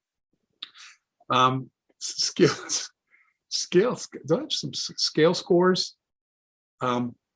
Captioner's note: laughs